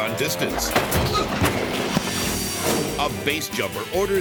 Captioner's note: motorbike thuds; person thuds